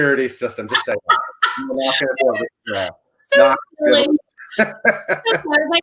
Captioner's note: laughing